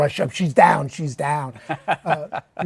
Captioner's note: laughs